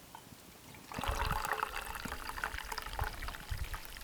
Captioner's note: pouring